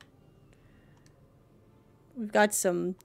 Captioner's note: none